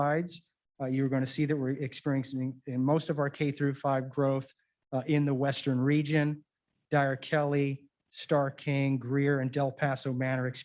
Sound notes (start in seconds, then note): none